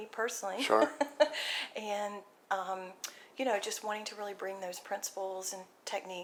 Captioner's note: laughs